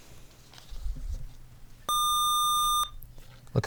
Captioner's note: buzzer